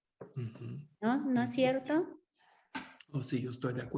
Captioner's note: Sandra speaks Spanish; speaking Spanish